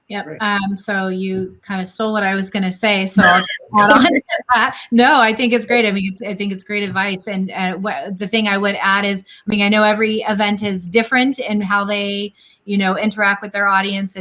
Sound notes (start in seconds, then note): 3.2 laughs